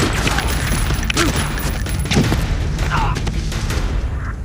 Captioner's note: men grunting